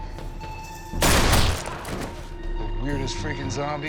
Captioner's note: gunshot